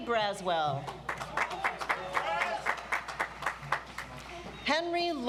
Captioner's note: audience applauds